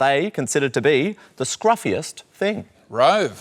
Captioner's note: none